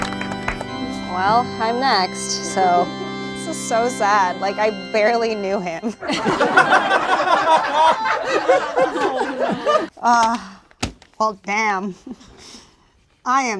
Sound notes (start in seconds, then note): 6.0 group laughs